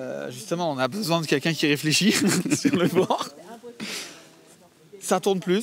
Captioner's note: laughs